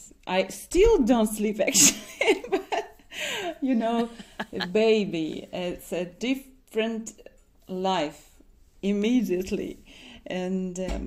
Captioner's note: laughs